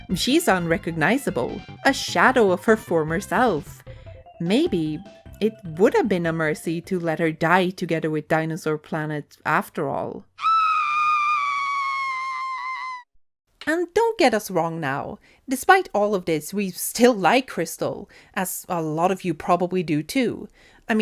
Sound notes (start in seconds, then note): 10.4 Krystal screams